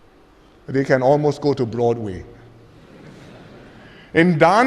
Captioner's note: laughter